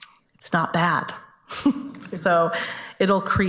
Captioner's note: chuckles